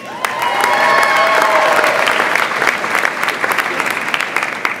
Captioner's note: audience applauds and cheers